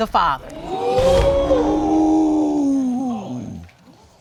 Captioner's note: audience exclaiming